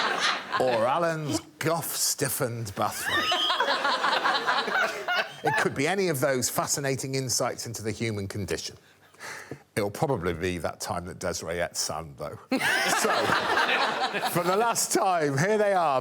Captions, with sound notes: Or Alan's guff-stiffened bathrobe. [all laughing] It could be any of those fascinating insights into the human condition. It'll probably be that time that Desiree ate sand though. So, for the last time, here they are.